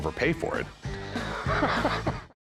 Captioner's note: laughs